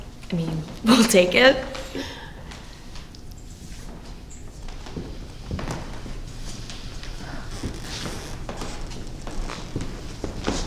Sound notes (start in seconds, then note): 5.0 footsteps thudding; 7.3 object creaking